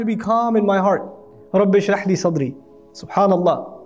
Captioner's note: Arabic